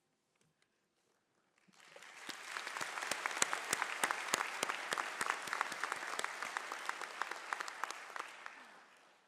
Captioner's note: applause